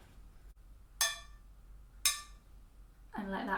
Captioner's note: soft metallic sounds